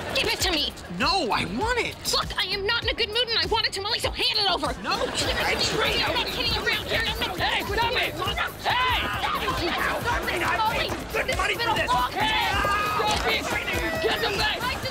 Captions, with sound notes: - Give it to me. - No, I want it! Look, I'm not in a good mood and I want a tamale, - so hand it over. - No! [arguing] Hey, stop it! Hey!